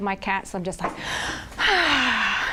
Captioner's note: sighs